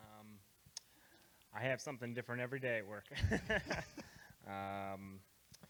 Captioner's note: laughs